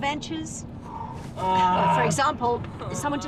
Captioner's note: Nigel groans